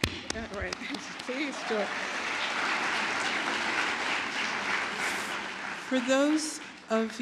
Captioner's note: applause; applause